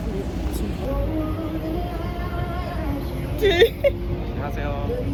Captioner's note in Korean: ㅋㅋ